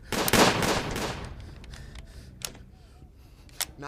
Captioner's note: gun shots